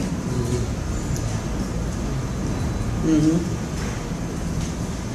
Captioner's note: panelists agreeing